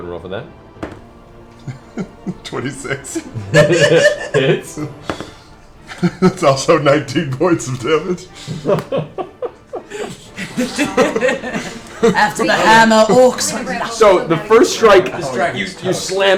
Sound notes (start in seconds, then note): 5.2 laughs